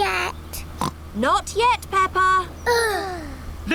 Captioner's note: oinks; both sigh